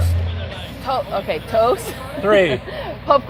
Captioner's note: laughter